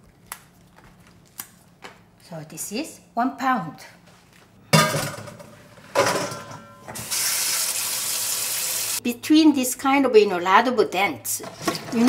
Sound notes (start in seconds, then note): 5.9 metal bowl clanking; 7.0 water flowing